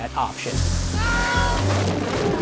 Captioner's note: screams and blows up